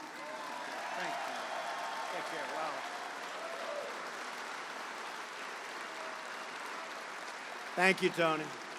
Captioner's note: applause